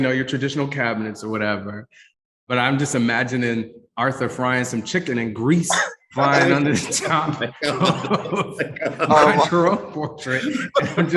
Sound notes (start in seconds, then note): 6.3 ripples of laughter; 9.9 laughing